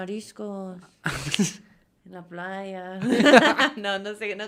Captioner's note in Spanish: risas